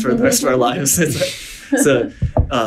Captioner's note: laughing